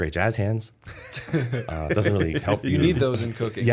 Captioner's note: laughter